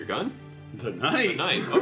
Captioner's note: laughs